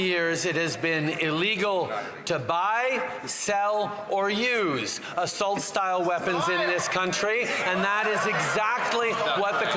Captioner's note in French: voix de l'interprète